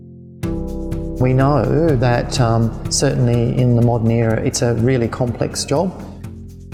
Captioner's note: voiceover